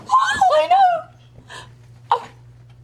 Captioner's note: squeals